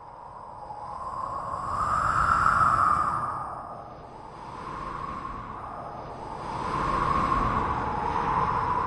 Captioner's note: wind noises